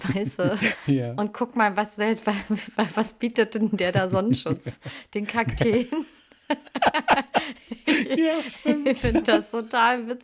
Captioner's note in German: gelächter